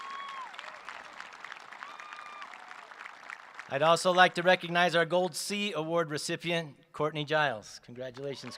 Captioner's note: applause